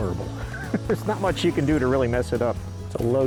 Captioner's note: laughing